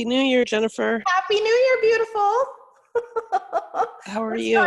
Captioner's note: laughs